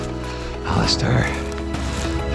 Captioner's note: exasperated